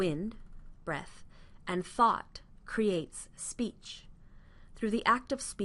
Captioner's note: breath